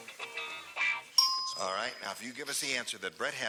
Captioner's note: ding